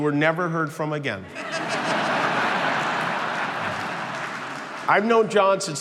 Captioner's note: crowd laughing